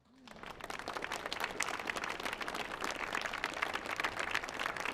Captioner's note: audience applauds